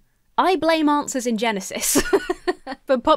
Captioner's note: laughs